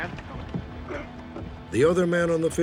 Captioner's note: grunts